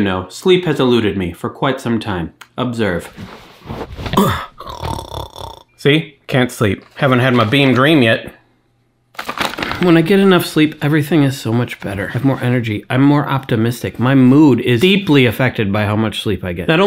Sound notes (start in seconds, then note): 4.2 snoring